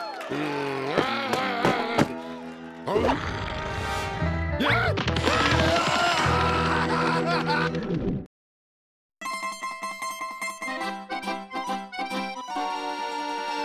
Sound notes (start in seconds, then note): 2.9 rabbits growling; 5.2 screaming; 9.2 classic Italian-style theme